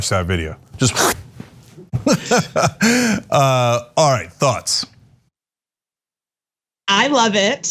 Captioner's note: laugh